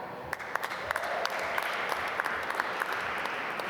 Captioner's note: applause